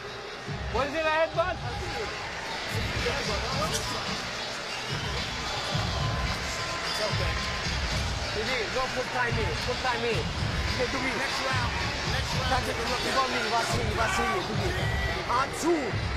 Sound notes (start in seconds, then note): 0.7 speaking French; 8.5 speaking French; 13.1 speaking French